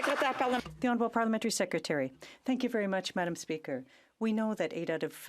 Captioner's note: some Applause